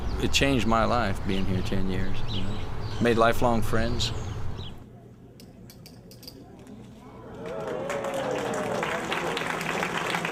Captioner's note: applause